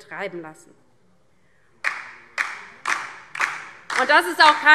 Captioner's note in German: Beifall DIE LINKE